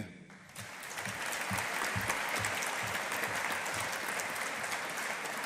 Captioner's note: audience applauding